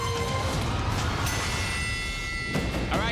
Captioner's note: bell dings